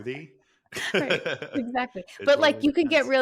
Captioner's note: laughing